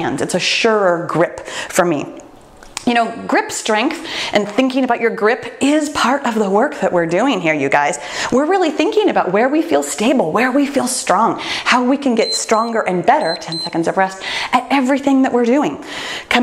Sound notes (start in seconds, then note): 13.1 timer beeps